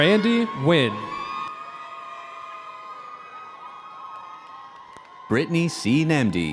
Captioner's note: audience cheering